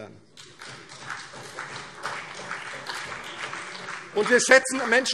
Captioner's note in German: Beifall CDU und vereinzelt BÜNDNIS 90/DIE GRÜNEN